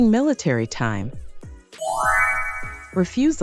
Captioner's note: soft upbeat music; bells chiming